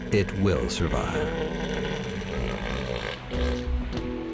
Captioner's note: bellowing